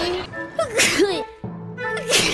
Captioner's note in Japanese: くしゃみ